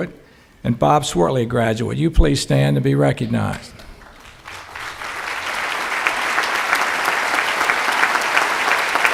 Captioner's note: clapping